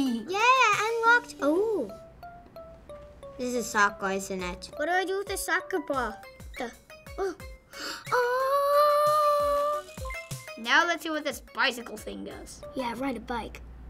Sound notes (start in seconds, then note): 7.6 gasp; 10.0 game dings